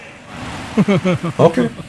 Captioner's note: laughing